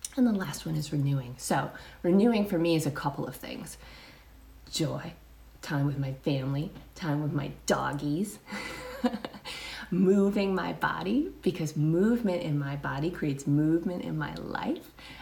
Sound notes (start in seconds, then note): 8.5 chuckles